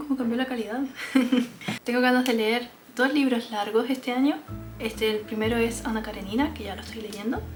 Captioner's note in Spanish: risas